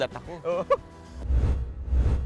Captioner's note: laughing